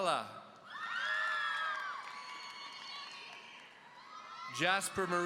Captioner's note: audience cheering